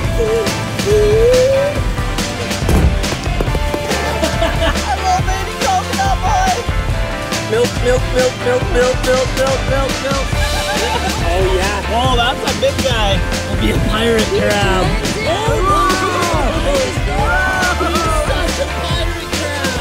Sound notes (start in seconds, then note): 2.6 coconut falling; 3.6 laughing; 10.1 laughing; 14.9 everyone talking